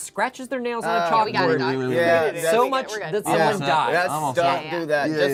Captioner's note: overlapping chattering